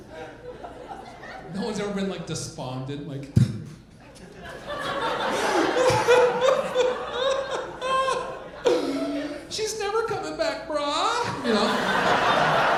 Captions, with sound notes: No one's ever been despondent like, (imitates crying) "She's never coming back, bra."